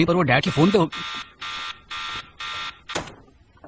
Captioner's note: timer buzzing